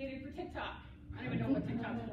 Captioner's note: laughter